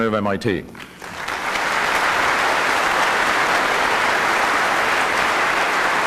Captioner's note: applause